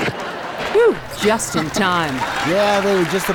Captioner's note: laughter from the audience